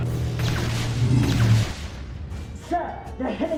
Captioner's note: lasers blasting